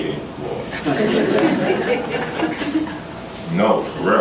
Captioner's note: laughter